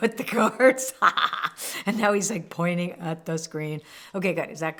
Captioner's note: laughs